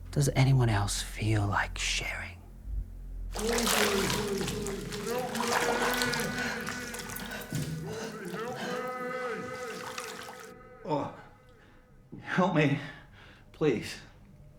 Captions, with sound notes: Does anyone else feel like sharing? (water sloshing) - Help me. Help me. (Dorothy gasping) Help me. Help me. Oh, help me, please.